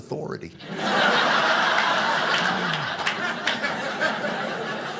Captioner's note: audience laughing